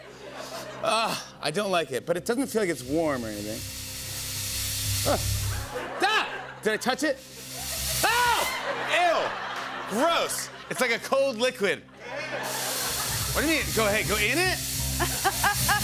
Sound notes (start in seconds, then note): 5.8 laughter; 8.2 laughter and applause; 11.9 laughter; 15.0 laughs